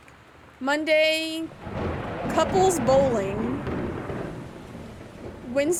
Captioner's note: pause For Thunder